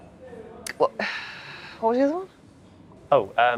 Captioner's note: sighs